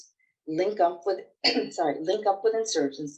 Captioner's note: coughs